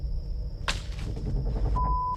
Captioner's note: twig snapping